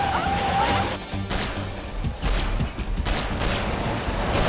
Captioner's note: gunshot